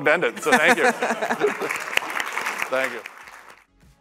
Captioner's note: applause